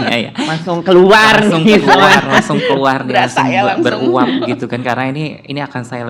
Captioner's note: laugh